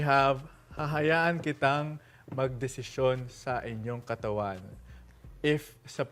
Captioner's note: in Tagalog